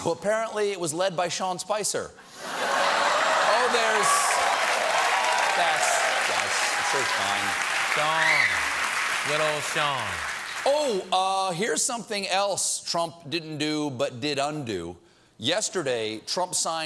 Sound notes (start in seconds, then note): 2.4 laughter; 2.8 cheers and applause